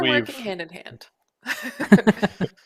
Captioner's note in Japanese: 笑い